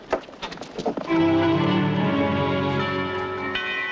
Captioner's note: bells tolling